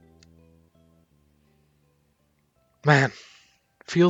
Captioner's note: big sigh